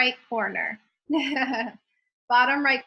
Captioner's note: laughs